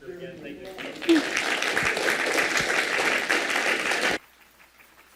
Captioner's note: applause